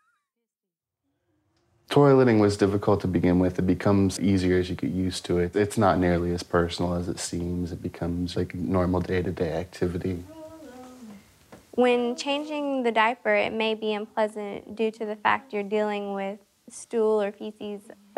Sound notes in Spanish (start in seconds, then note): 10.3 Voz de fondo